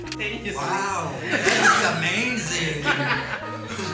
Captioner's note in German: Gelächter